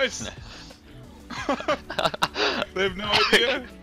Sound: laugh

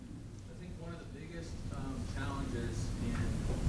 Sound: voiceover

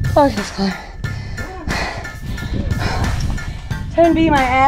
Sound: panting

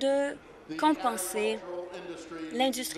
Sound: none

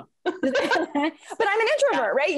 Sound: both laugh

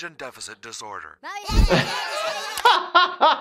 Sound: children yelling; laughing

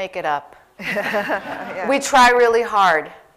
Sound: laughter

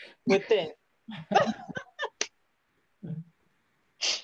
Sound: laughing

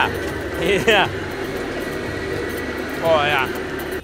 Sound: laughs

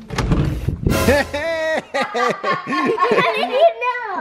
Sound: laughing

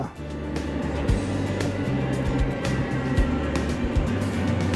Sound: train whooshing

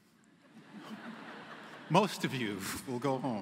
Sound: laughter

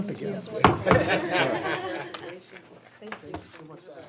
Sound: bangs on table; all laugh

